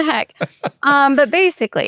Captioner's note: laughs